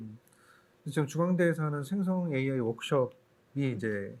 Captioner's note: speaking korean